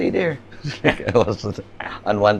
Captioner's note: chuckles